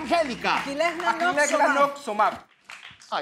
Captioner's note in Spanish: Habla en revés